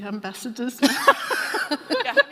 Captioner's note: laughing